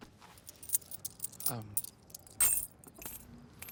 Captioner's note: coins jingle